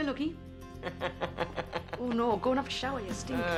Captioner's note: Tertawa